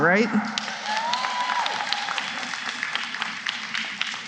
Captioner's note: cheering and applause